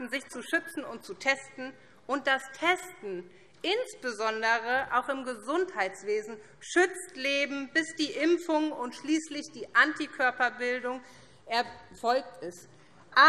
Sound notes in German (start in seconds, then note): none